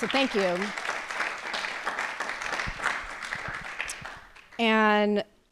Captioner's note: applause